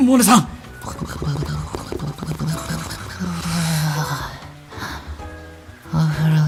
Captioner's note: bubbling???